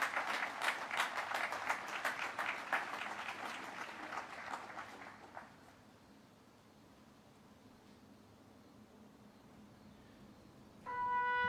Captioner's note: applause